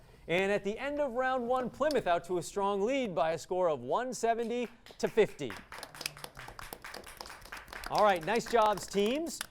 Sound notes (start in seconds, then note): 4.4 clapping